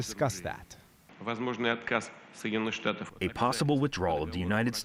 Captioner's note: through translator